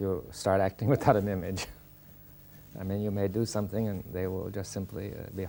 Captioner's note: laughs